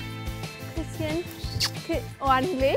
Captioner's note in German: Kusslaut